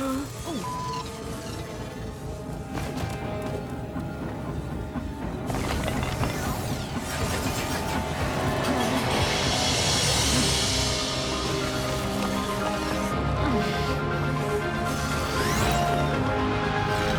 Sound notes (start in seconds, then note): 3.6 beep; 5.8 dramatic music; 7.0 energy beams whooshing